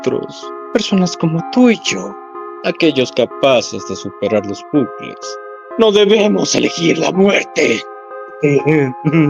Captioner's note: hahahaha